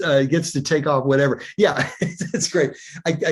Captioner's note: chuckles